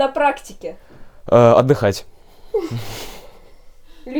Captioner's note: laughter